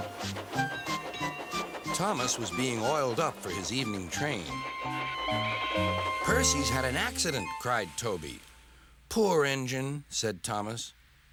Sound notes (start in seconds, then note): 0.8 dings bell; 4.8 creaks